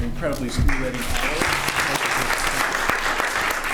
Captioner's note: applause